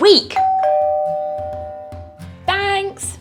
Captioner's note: doorbell rings